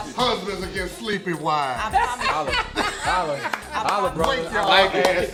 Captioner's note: laughing